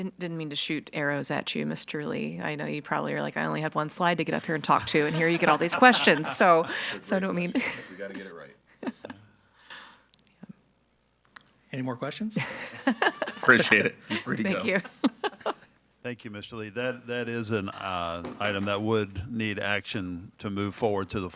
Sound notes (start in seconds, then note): 4.4 all laughing; 12.4 chuckling